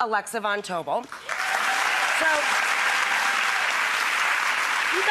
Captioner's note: audience applause